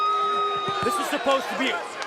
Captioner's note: cheers & boos